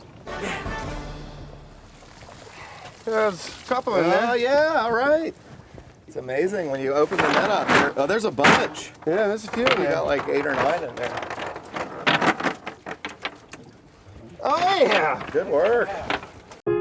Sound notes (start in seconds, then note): 12.0 net weights rattle